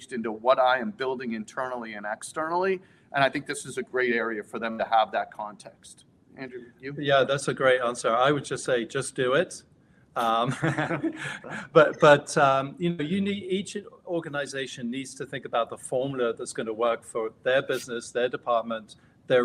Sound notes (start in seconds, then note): 10.2 everyone laughing